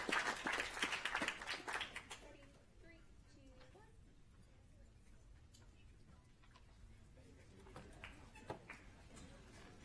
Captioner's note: applause